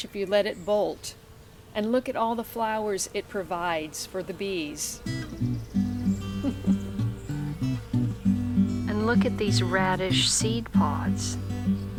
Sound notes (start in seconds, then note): 5.0 soft guitar picking; 7.6 bees buzzing